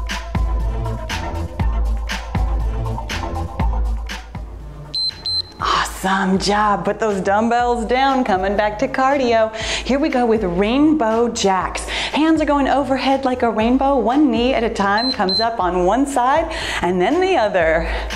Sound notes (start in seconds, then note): 4.9 timer beeps; 15.0 timer beeps